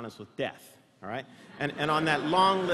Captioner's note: laughter